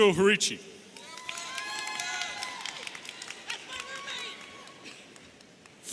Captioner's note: audience cheering